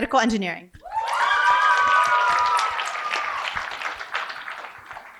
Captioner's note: cheering and applause